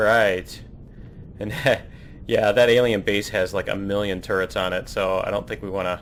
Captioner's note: laughs